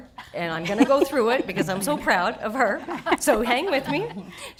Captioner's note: audience chuckling